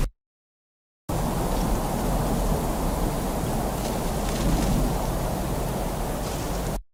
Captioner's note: thunder gently rumbling; air whooshing